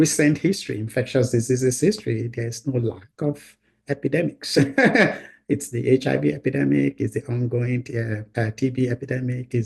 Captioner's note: laughs